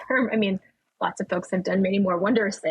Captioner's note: laughing